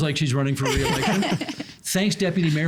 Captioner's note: laughing